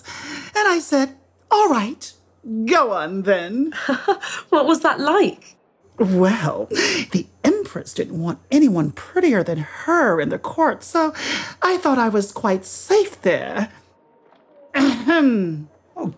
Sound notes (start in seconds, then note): 4.1 laughs